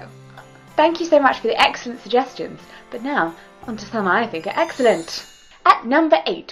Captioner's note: sparkly sound effect